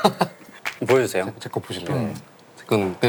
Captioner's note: clap